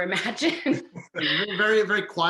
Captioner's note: laughing